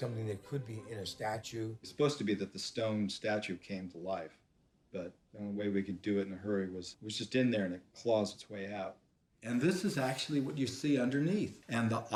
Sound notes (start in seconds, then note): none